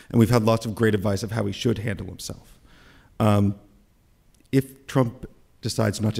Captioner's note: none